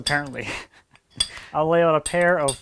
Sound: laughing

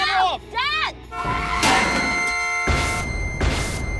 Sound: horn honks

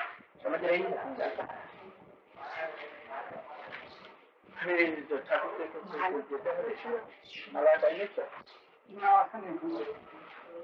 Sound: Hindi

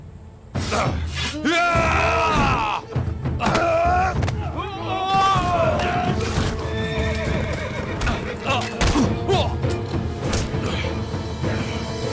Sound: Savaş sesleri

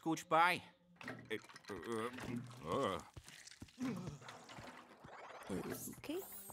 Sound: shudders

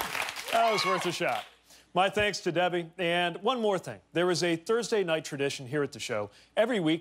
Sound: cheers and applause

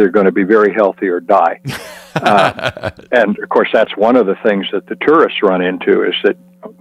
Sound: laugh

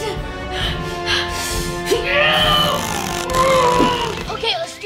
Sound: breathing heavily; grunting

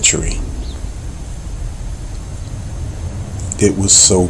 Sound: birds chirping

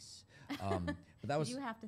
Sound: laughter

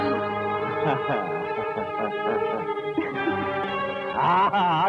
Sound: laughs

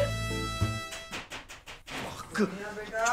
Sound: door knocking

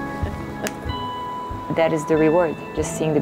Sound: hands clapping

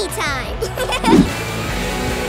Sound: laughing

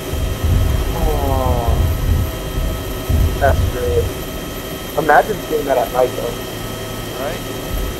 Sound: moans suggestively

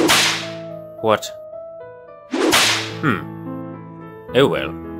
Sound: Brittish accent

